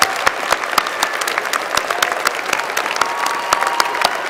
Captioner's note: applause